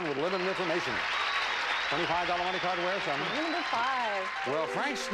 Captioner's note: audience applauding